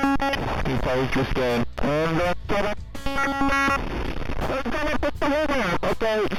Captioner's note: glitching noise